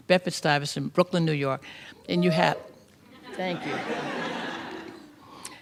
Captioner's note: audience member whooped; laughter